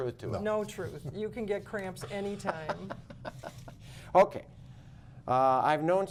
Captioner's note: laughter